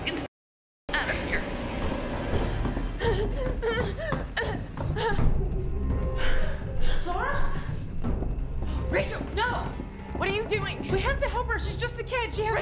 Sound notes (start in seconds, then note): 3.3 Claire gasping